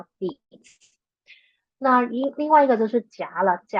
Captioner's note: speaking chinese